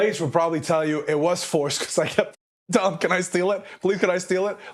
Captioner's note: laugh